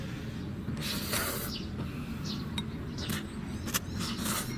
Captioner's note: eating sound